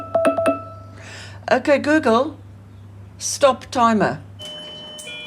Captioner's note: timer alarm bleeps